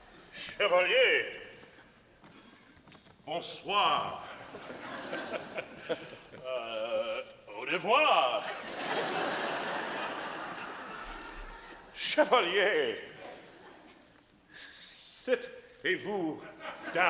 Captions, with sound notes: - Chevalier, bonswa. - (laughing) Uh, au revoir. (audience laughing) - Chevalier, sit le vous down.